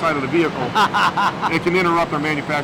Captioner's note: laughs